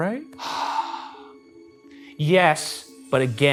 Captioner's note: sighs